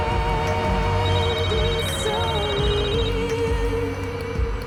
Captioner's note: phone ringing